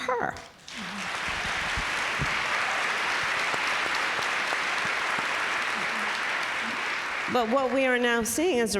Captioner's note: applause